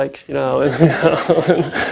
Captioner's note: laughs